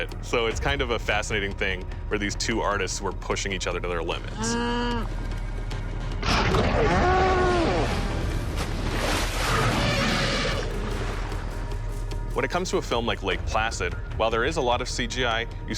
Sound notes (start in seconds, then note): 6.2 loud growl; 6.6 cow mooing; 7.5 water splashing